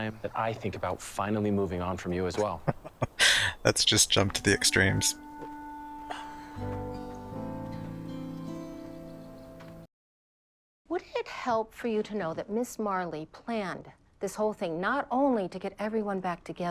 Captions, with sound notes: [Chuckling] Let's just jump to the extremes.